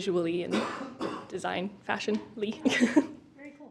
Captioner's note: chuckles